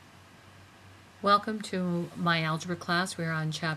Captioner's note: voiceover